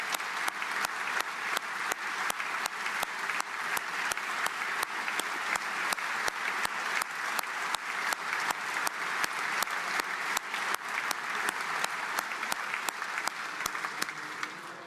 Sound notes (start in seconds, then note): 3.3 applause